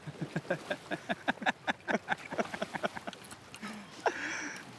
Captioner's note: laughter